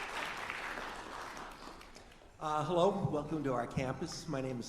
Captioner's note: applause